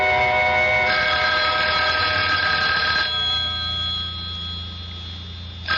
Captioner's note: bell rings